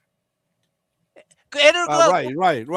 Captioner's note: non-english speech